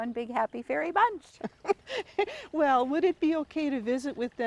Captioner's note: laughs